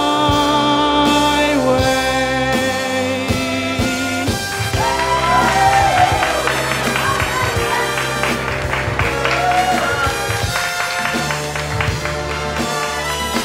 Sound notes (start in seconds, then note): 4.5 cheers